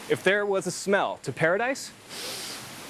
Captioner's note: breathes deeply